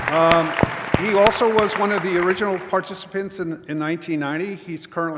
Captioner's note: applause